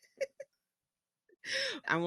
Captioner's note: laughs